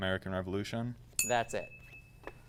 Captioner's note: ding